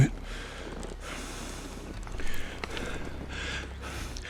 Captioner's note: breathing heavily